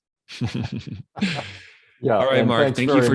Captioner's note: laughing